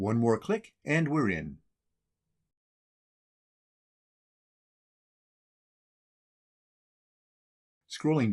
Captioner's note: silence